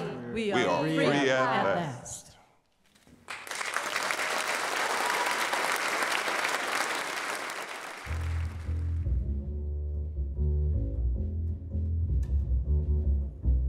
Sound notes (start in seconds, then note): 3.2 applause